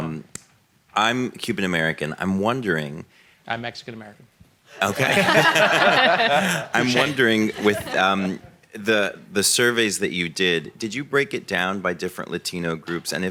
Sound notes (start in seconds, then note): 4.8 audience and panelists laugh